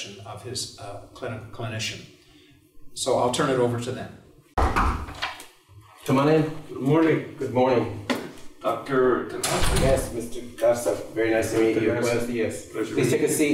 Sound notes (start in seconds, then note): 4.6 knock at door